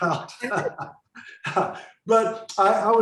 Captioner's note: laughing